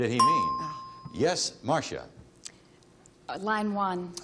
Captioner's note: ding